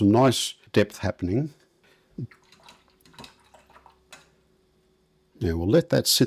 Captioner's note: silence